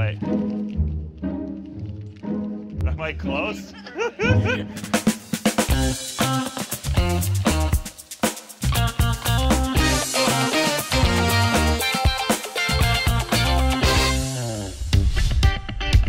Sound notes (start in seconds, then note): 3.5 laughs; 6.2 upbeat theme music